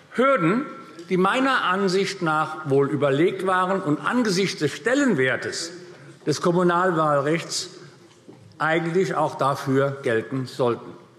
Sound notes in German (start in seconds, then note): none